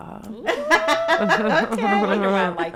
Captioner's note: panelists laugh